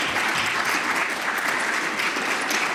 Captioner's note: applause